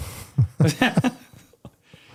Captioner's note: laughs